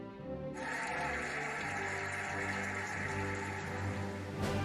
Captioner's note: cheering and applauding